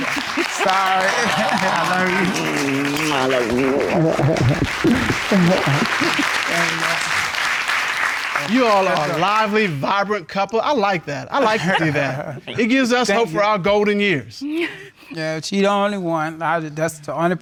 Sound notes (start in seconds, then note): 3.7 chuckles